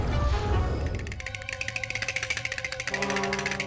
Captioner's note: horse shivering